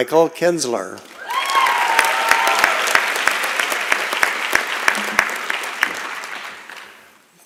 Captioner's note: applause and Cheering